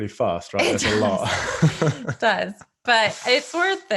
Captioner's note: laughing